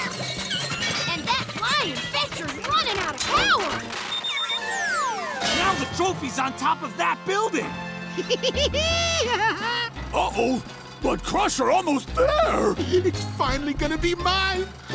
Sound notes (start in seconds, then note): 8.1 laughing